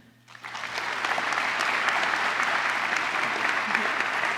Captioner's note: applause